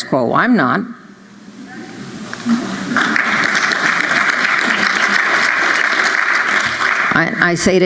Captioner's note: applause